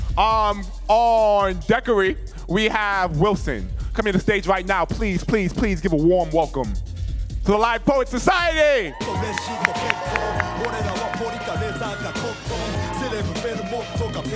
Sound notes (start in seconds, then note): 8.7 audience cheering; 10.2 singing in foreign language